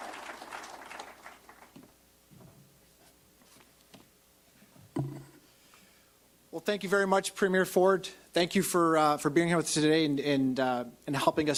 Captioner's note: applause